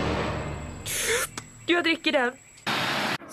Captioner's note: inhales deeply